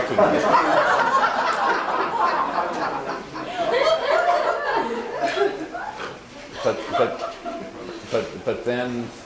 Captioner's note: laughter